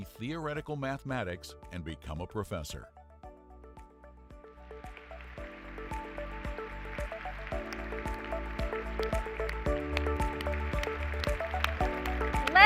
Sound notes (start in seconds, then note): 5.4 applause